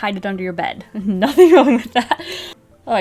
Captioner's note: laughs